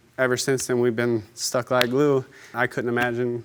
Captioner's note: smacks hands